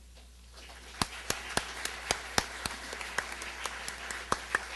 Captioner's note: applause